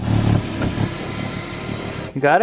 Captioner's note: machine whirring